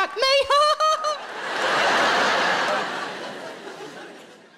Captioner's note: laughing